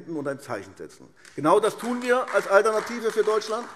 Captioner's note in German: Beifall AfD